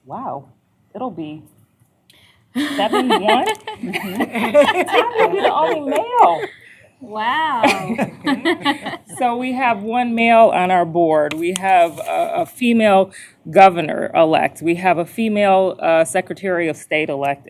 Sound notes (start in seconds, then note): 2.6 laughter